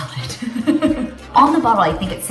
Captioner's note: laughs